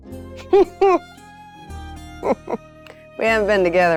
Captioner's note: chuckles